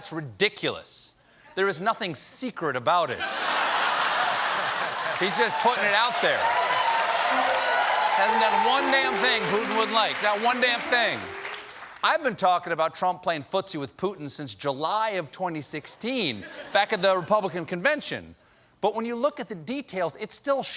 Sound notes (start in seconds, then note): 3.2 laughter; 8.2 cheers and applause